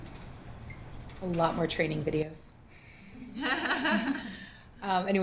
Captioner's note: laughter